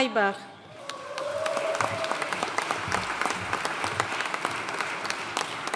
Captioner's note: audience cheering and applauding